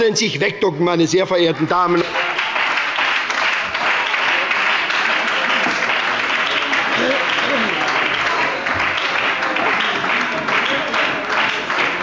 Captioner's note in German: Beifall bei der SPD und der FDP